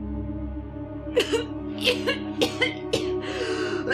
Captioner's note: Naira coughing hard